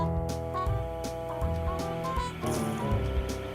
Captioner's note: heater humming